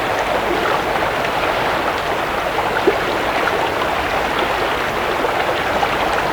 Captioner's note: running water continues